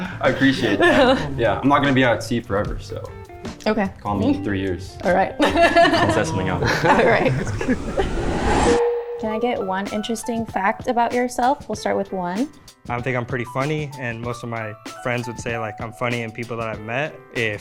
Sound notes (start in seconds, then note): 0.0 both laughs; 6.0 laughs; 8.6 title beeps